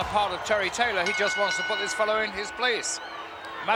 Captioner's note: bell rings